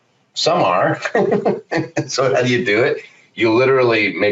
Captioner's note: laughs